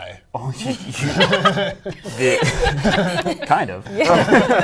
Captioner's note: laughter